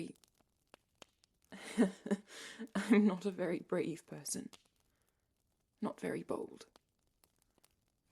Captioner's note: Regulus laughs dryly